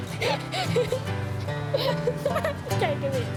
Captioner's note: laughs